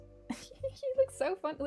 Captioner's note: laughs